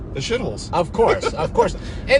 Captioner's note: laughing